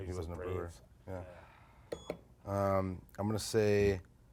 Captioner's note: beep